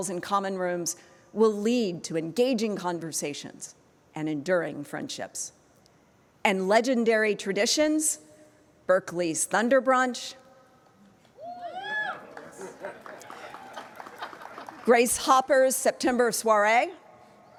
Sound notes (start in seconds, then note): 11.4 audience cheering